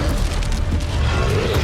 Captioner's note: demonic roaring